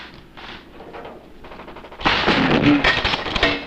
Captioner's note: gun shooting